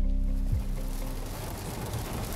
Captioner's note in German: Regenprasseln